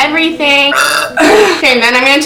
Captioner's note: burp